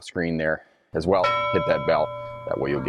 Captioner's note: bell dings